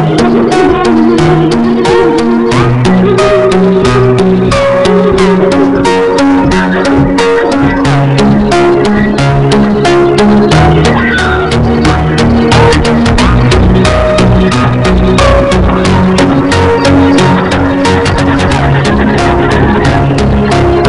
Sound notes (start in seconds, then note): 7.8 more incomprehensible screaming; 11.5 keyboard smashing; 15.1 more keyboard Smashing